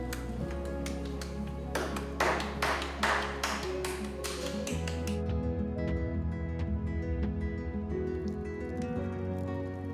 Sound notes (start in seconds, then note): 1.7 heavy slapping; 8.1 fire crackling